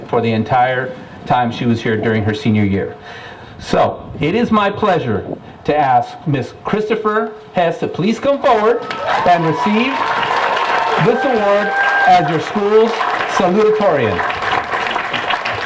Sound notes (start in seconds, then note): 8.5 applause and cheering